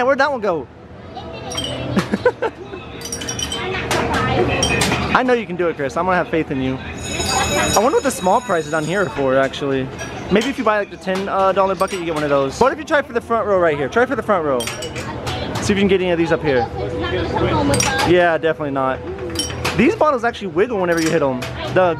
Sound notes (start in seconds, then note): 1.8 laughing; 6.9 bell ringing